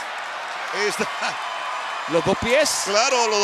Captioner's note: laugh